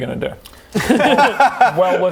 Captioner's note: easy laugh